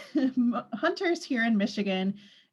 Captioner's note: laughs